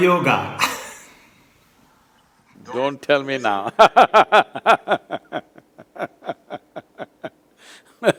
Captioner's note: laughs; laughter